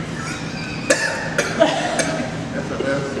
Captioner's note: coughs